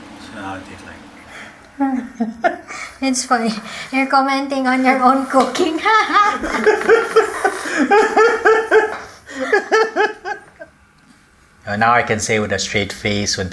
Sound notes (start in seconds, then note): 1.7 both laugh; 6.0 both laugh